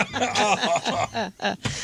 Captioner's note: laughing